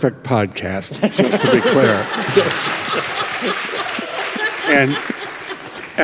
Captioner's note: group laughs; congregation clapping